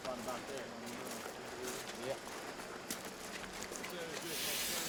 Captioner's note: background talking